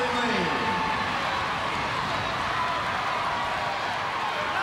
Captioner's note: crowd cheering